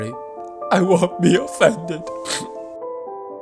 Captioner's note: sob